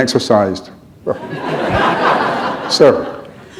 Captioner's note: laughter